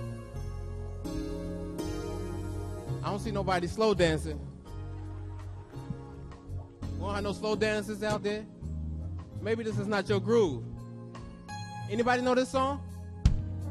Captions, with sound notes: - I don't see nobody slow dancing. [audience laughs] We have no slow dancers out there? Maybe this is not your groove. Anybody know this song?